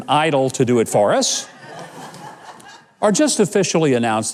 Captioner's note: audience laughs